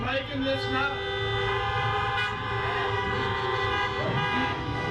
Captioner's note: horns honking